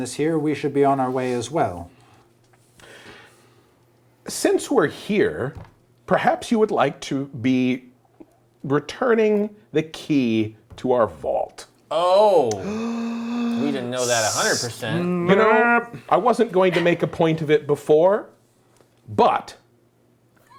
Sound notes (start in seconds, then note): 12.5 gasping